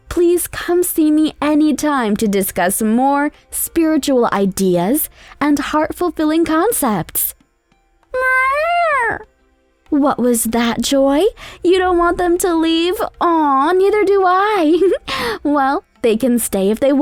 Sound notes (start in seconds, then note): 8.1 Joy meows; 14.6 giggles